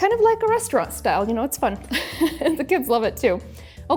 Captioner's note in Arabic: يضحك